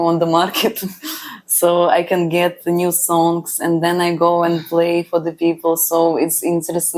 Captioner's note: laughs